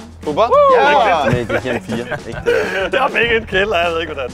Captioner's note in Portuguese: Risada